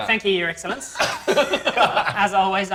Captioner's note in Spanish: Risas